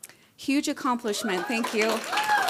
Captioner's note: cheering